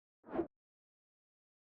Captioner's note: swoosh